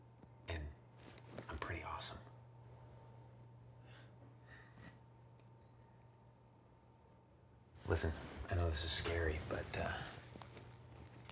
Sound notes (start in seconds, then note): none